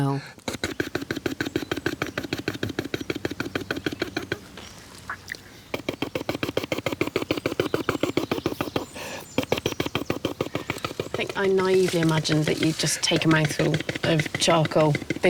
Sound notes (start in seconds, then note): 0.5 repeated spitting continues